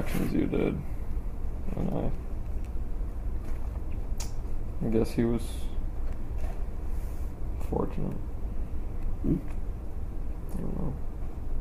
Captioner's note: quietly